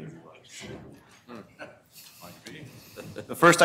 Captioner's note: laughter